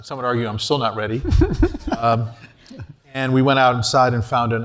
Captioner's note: laugh